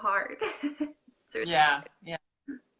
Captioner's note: laughing